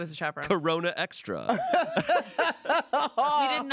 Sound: everyone laughs

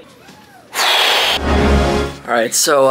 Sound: blows raspberries

